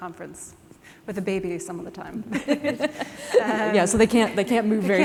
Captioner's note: laughter